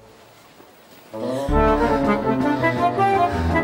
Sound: he gasps

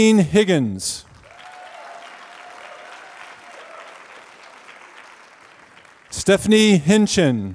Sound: applause

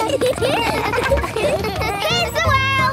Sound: laughter

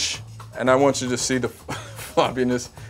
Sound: laughs

